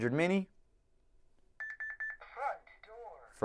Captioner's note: beep beep beep